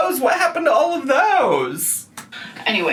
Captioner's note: none